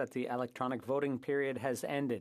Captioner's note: speaking FRENCH